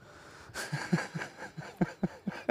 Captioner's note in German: Er lacht